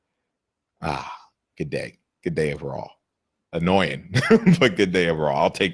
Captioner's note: laughs